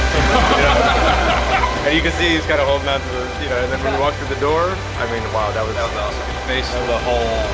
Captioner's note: laughing and chatter